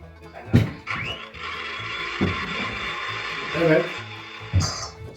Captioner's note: food processor sound